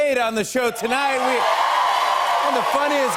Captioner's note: cheers and applause